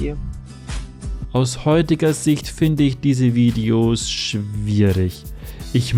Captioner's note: voiceover